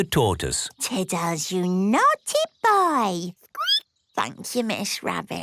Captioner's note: squeaking